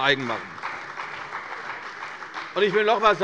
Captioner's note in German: Beifall bei der CDU und dem BÜNDNIS 90/DIE GRÜNEN